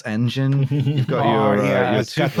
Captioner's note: chuckles